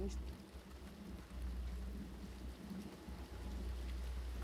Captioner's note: sound of rain